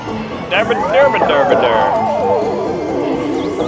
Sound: drunken mumbling

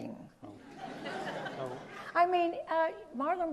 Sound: audience laughs

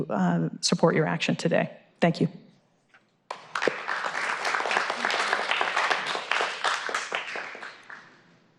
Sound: applause

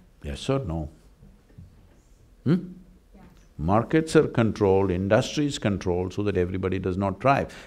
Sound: none

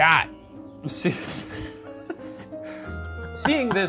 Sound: laughing

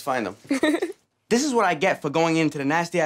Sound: giggles

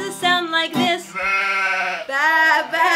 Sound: sheep baa-ing

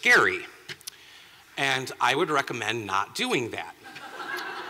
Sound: laughter

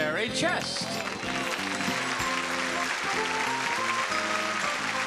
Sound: audience clapping

